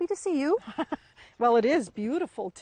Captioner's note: laughs